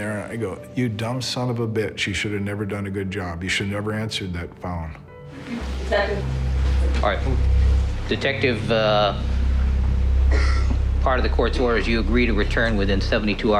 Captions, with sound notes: I mean introducing race into this would be like [Sighs] introducing sexual preference into a motive. I mean it really eh it really has nothing to do with anything.